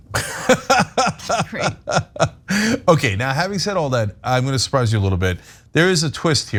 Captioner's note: laugh